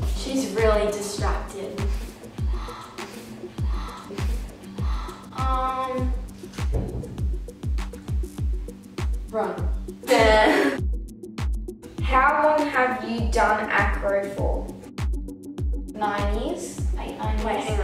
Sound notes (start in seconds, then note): 1.8 breathing; 6.6 thud; 10.0 laughs